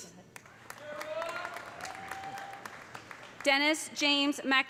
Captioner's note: audience applauding; audience cheering